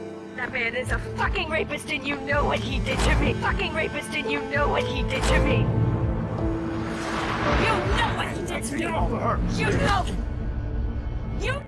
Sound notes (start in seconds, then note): 0.5 voiceover; 7.4 shouting; 9.9 shouting